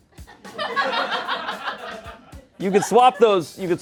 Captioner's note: everyone laughs